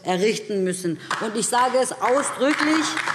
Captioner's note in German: Beifall DIE LINKE